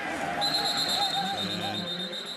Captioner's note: whistle